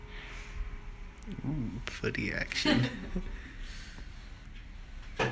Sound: laughs

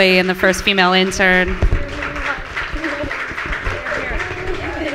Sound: applause from the audience; applause and cheering from the audience

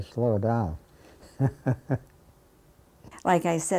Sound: laughing

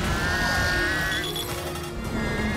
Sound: targeting system beeps

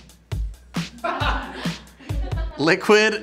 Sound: laughing

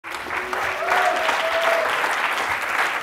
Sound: audience applauds

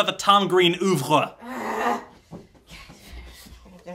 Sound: groans

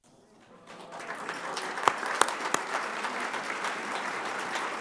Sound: audience applauding

